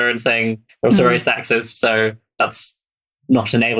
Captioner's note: laughs